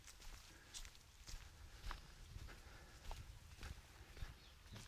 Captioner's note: sound of walking